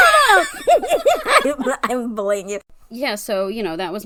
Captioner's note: laughs